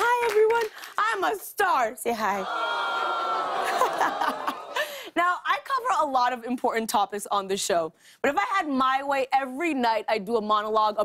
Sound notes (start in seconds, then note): 2.4 audience "aww"s; 2.5 laughs